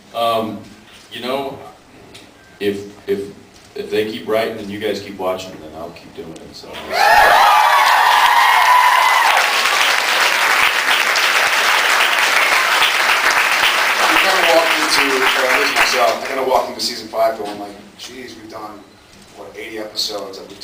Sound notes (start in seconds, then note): 7.2 cheers, screams, applauds; 10.9 applauds